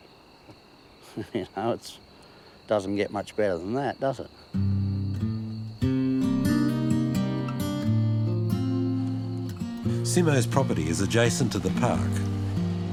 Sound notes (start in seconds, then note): 1.1 chuckles